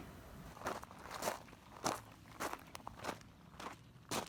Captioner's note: gravel crunching under shoes